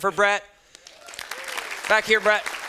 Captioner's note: students clapping